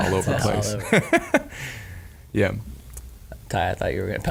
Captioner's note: laughing